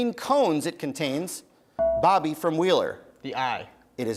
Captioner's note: bell rings